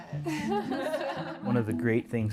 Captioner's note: laughing